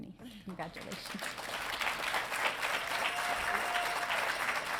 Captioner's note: audience applauding